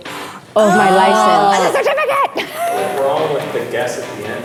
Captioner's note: laughs